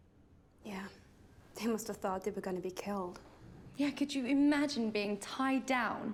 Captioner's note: none